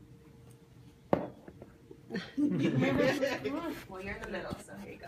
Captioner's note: people laugh